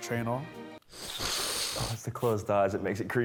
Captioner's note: sniffs